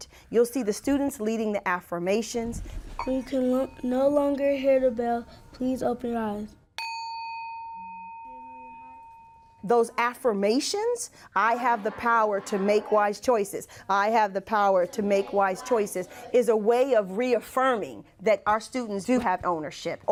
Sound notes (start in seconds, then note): 6.8 bell